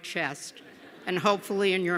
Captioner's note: laughter